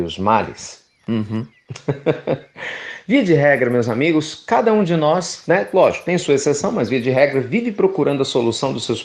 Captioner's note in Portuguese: Risos